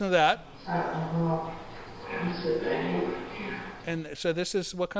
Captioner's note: voice of a ghost: …i’m staying here…